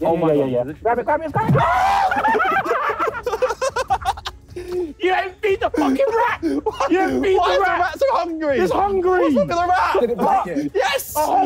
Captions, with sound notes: Straight down, straight down, straight down. [group exclaiming] You ain't beat the rat. Beat the f*cking rat. - Rat's hungry. - Hungry. - Yes.